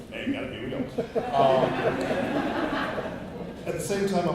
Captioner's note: laughter